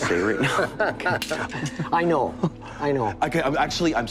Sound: laughs

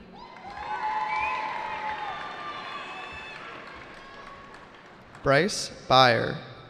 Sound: cheering

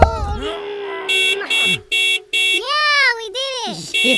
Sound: car horn honks

